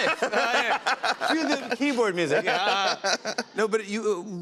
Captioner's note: laughs